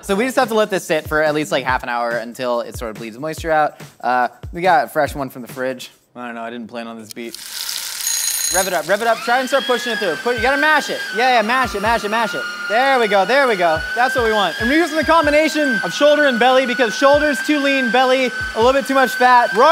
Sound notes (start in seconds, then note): 7.2 sizzling; 7.3 timer rings and buzzes; 9.0 grinder whirs; 14.4 yelling over grinder